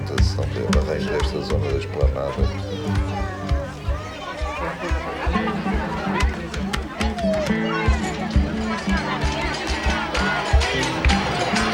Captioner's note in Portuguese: vozes